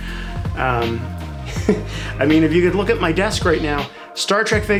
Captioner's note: laugh